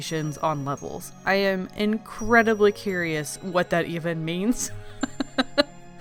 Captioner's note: laughs